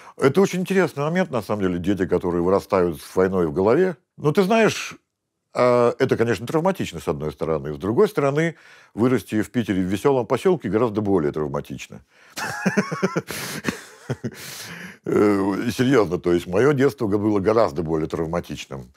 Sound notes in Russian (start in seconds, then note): 12.4 смеется